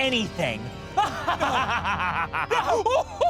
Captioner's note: laughs evilly